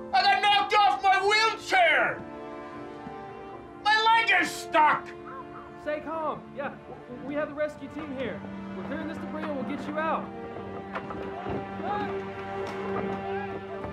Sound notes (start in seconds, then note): 10.6 sounds of debris being moved